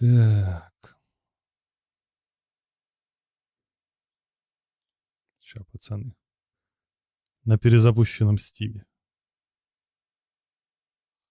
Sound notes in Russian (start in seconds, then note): none